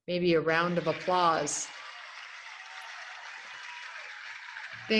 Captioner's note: applauding